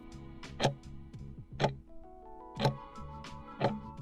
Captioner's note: timer ticking